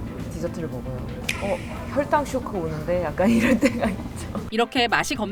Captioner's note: long laughter